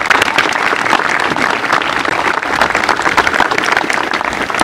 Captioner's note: applause